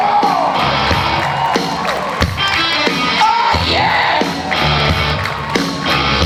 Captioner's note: audience cheers